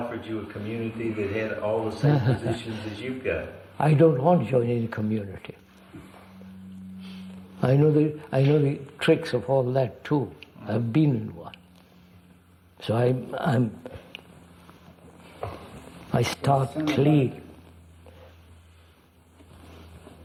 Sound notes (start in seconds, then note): 1.9 laughs